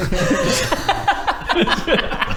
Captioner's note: incredulous laughter